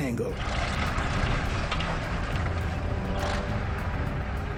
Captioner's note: tank revving